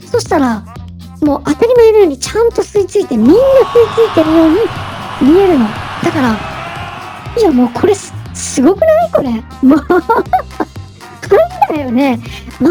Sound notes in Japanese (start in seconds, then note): 10.9 笑い